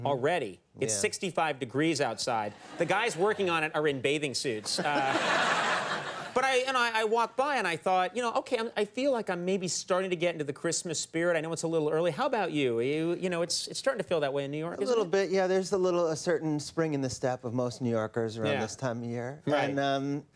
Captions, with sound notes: already. It's 65 degrees outside. (audience chuckling) The guys working on it are in bathing suits. (Matthew laughing) (audience laughing) But I walked by and I thought, you know, okay, I feel like I'm maybe starting to get into the Christmas spirit, I know it's a little early. How about you? Are you? It's starting to feel that way in New York, isn't it? A little bit, yeah, there's a certain spring in the step of most New Yorkers around this time of year. Yeah, right.